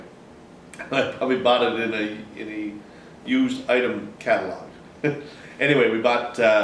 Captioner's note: chuckles